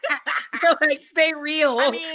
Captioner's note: laughs